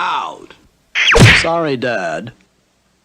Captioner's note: smack!